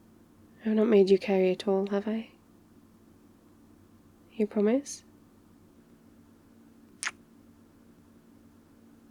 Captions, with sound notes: I've not made you carry it all, have I? you promise? *kiss*